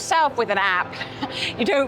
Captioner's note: chuckles